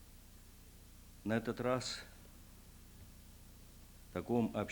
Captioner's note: non-english speech